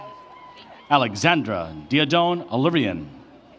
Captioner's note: cheers and applause